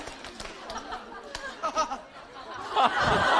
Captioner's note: haha